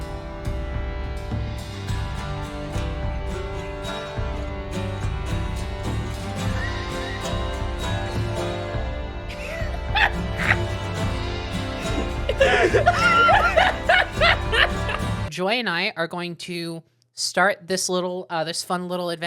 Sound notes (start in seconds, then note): 9.7 laughing; 15.3 music stops